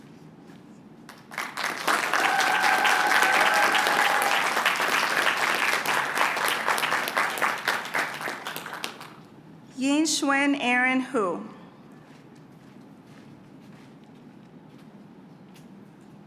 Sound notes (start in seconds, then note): 2.7 applause